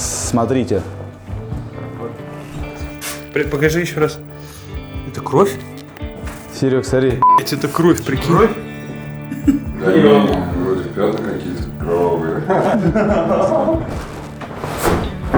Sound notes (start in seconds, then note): 13.9 sarcasm